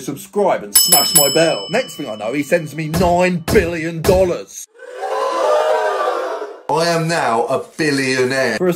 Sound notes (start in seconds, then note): 0.7 bell rings; 4.7 crowd gasps